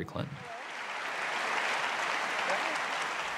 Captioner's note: applause